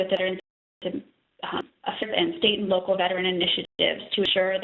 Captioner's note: audio dropping